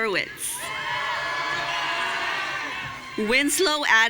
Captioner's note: audience cheering